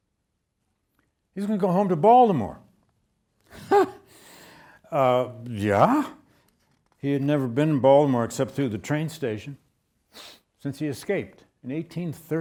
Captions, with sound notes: He's gonna go home to Baltimore. (lecturer chuckles) Yeah, he had never been in Baltimore except through the train station, since he escaped in 1838.